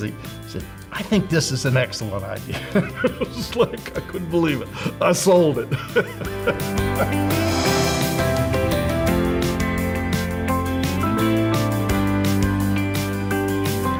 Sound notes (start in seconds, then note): 2.9 laughs; 7.6 bright music